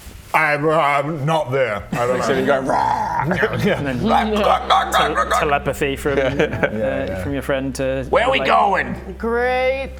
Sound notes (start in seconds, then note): 2.0 rwwwarrgh!; 3.9 strangled turkey noises